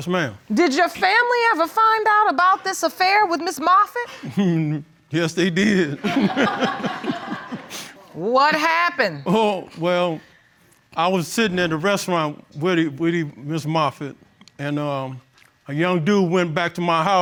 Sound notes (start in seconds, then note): 6.0 chuckles; 6.0 audience laughing